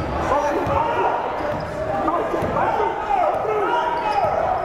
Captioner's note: yelling